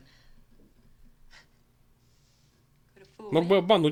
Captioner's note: chuckles